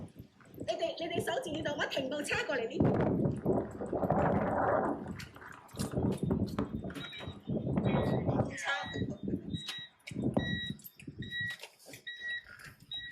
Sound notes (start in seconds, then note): 0.1 speaking foreign language; 7.8 alarm ringing